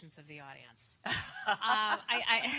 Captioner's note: laughter